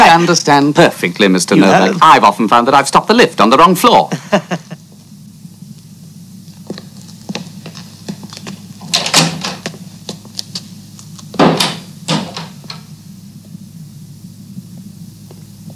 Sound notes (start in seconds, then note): 4.1 chuckles; 6.4 feet shuffling; 9.2 door squeaking; 12.0 door bangs